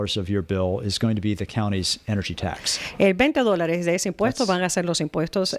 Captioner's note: Hablando ingl\s